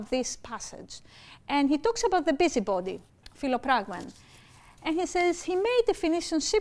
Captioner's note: speaking greek